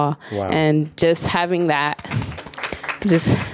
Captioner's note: audience applauds